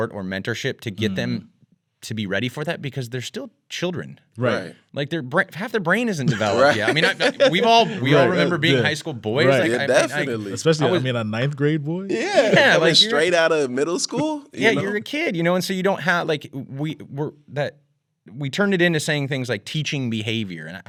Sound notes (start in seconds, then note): 6.2 laughing